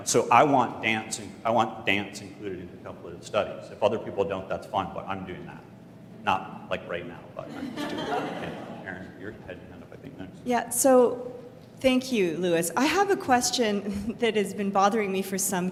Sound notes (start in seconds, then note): 7.4 laughter